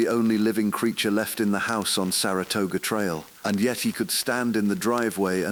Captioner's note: whispering; exhale